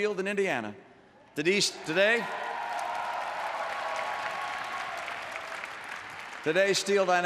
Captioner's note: applause